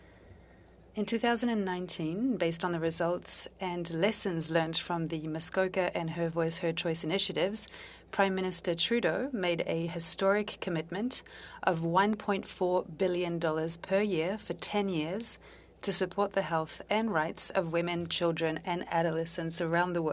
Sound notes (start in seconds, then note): 5.1 speaking French